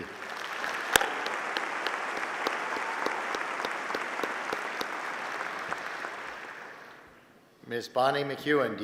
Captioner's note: applause